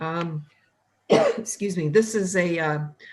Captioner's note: coughs